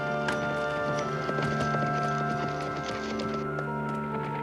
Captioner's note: horse galloping